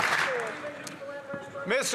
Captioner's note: some Applause